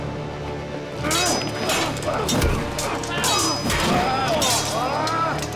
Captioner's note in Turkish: Kılıç sesleri